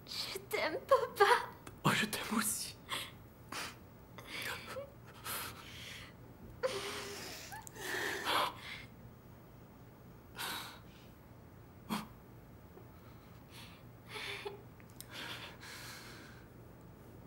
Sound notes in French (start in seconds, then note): 4.4 sanglotant